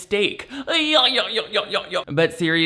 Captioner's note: chuckling